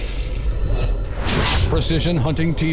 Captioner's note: whooshes and bang